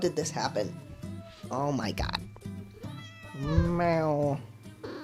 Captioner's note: meows